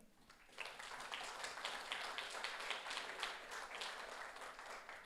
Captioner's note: audience applauds